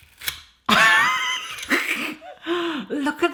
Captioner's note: laughs